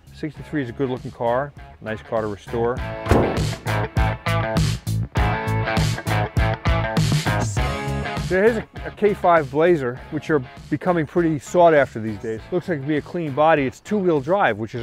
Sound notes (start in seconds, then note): 3.0 car hood thuds; 3.9 funky rock music